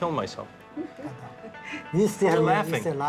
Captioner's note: laughing